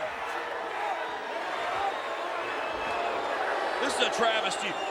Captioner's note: audience jeers